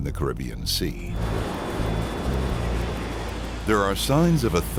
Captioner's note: airplane engine roaring